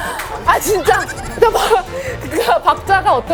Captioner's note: laughing